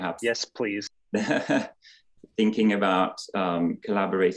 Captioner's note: chuckling